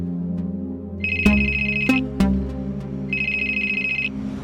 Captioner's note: phone rings